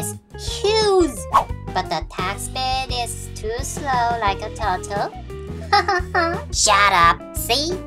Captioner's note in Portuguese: Risadas